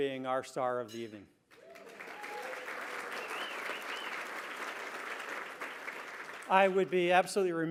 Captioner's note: applause